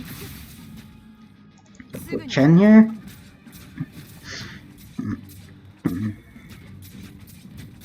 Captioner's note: clear throats